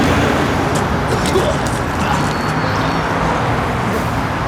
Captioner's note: Johnathan vomits